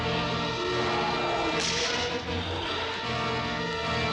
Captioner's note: gun firing